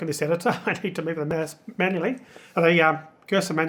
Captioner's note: chuckles